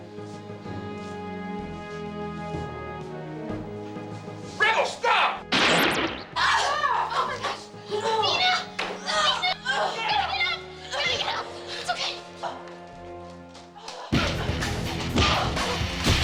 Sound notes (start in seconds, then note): 0.1 upbeat music; 5.6 laser gun blast; 6.3 people groaning